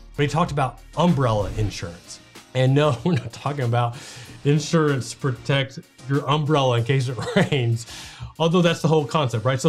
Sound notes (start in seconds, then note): 2.7 chuckles; 7.2 laughs